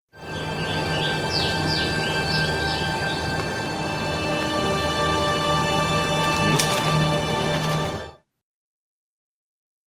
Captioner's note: birds singing